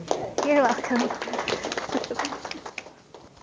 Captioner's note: audience applause